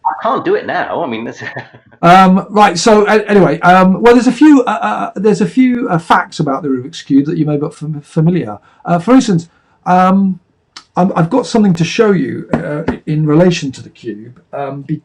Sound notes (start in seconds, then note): 1.4 chuckling